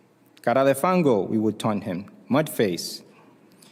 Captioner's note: spanish